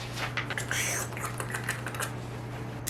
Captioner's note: slurpy noises